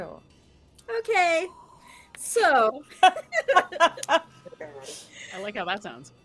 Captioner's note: laughing